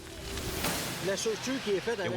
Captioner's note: firefighter speaking French